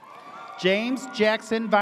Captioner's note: audience cheers